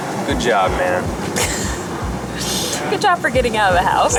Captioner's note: laughs